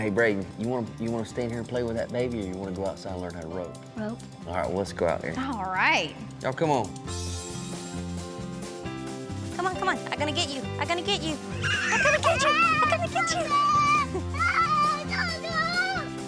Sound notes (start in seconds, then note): 11.5 screaming; 13.4 laughs; 13.4 screaming